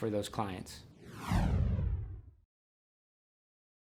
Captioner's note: whooshing